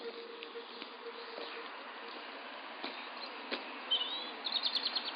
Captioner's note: footsteps approaching